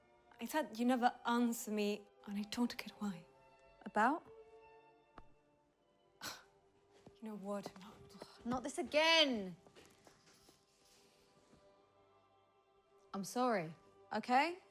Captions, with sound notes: - I said, you never answer me and I don't get why. - About? - (scoffs) You know what? - (sighs) Not this again! I'm sorry, okay?